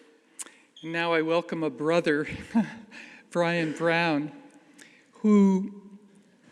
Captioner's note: chuckles